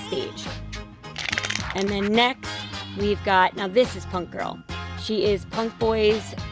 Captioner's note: crumpling Sound